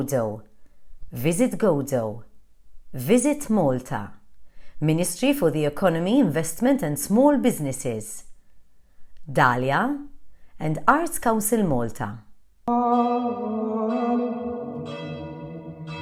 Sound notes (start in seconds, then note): 12.6 gregorian chant; 14.1 bells ringing